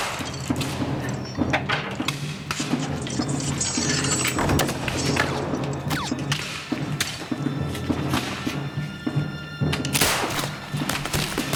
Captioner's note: gunfire